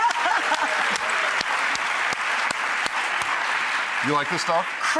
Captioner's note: audience clapping